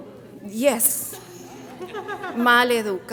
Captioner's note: audience murmuring and laughing; speaks in Spanish